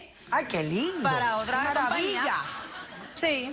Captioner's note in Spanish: risas